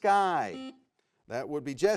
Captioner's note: buzzer beeps